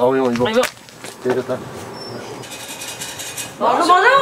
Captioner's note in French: sonnerie